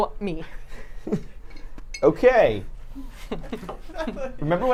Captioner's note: laughs; Safiya laughs